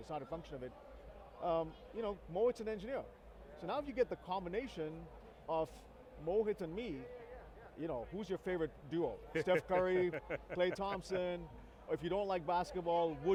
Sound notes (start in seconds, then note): 9.4 laughs